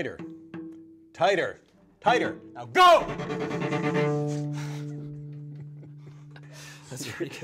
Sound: both laugh

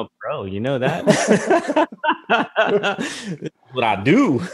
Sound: both laugh

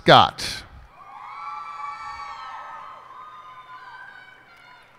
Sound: cheers and applause

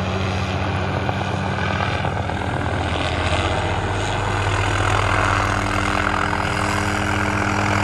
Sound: helicopter blades growing closer

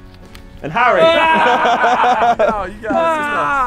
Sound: men laughing

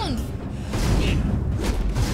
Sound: crash; thump

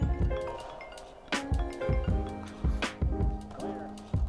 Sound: phone ringing

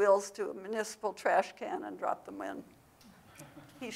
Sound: audience laughs

